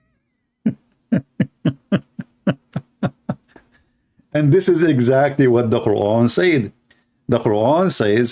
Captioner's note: laughter